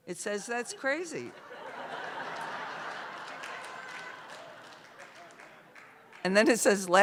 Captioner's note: laughter